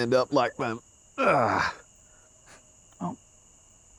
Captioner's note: grunts